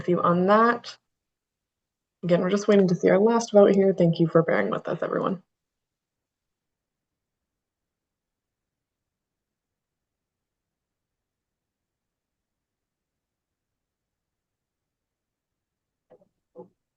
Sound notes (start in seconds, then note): 6.4 pause